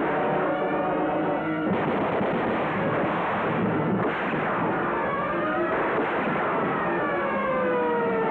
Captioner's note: dramatic music; sirens wailing; gunfire; dramatic music; sirens wailing